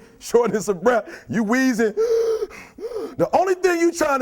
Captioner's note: wheezing sounds